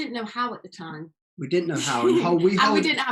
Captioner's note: giggles